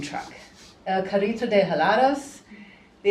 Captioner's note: speaking spanish